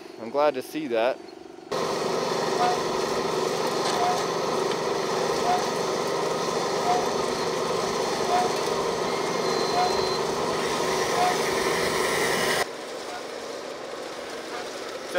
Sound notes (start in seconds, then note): 2.0 engine roaring